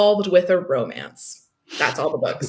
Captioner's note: laughs